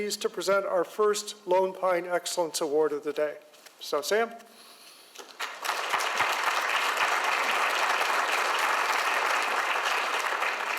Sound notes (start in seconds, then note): 5.3 audience applauds